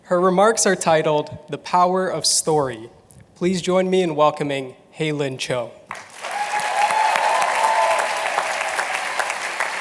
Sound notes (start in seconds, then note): 6.0 cheering